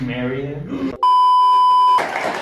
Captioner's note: TV signal beeps; audience applauding